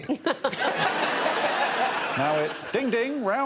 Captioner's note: audience laughing